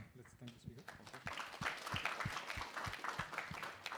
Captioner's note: applause